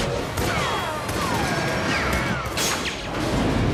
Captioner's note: bullets ricochet; cable snaps